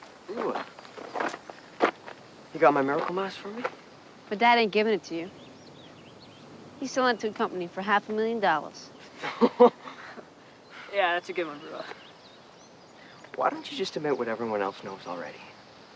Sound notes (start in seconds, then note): 9.1 laughter